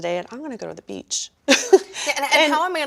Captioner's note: laughing